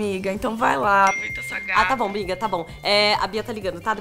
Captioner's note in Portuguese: barulho de mensagem